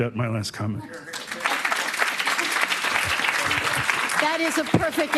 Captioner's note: applause